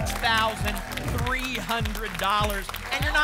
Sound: applause and cheering

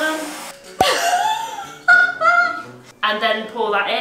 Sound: laughs

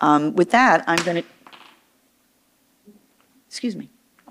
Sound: object rattles

